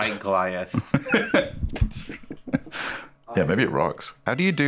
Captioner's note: laughs